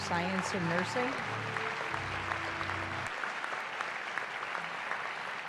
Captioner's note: applause